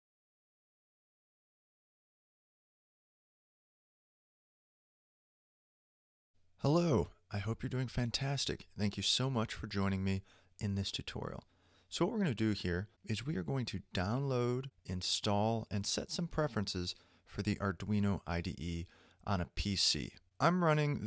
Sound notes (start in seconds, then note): 6.3 voiceover